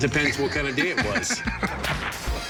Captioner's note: laughs